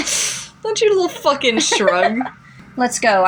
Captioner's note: laugh; giggle